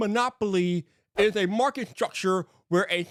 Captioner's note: screen whooshing